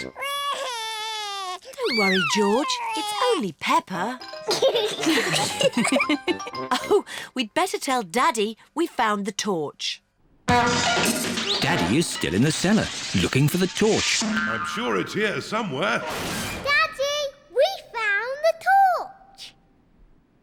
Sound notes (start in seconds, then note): 0.0 cries; 4.6 all laugh; 10.5 crashing